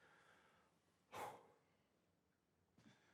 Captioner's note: exhales